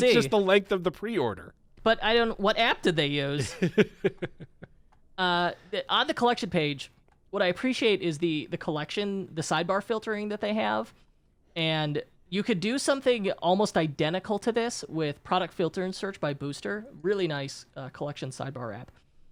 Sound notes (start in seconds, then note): 3.4 chuckling